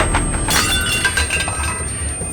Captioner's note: crash